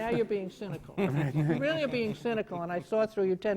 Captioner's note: laughter